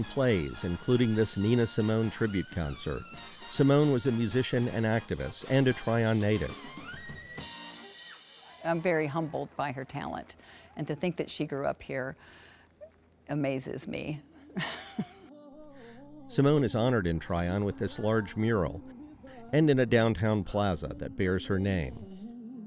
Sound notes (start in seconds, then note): 7.2 exciting music; 14.5 chuckles